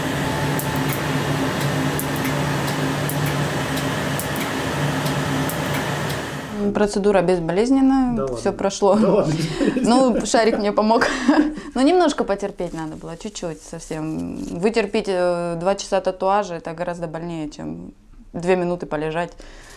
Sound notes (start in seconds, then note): 9.2 laugh